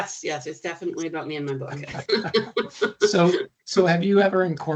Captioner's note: chuckling